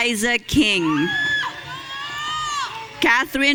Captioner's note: audience cheering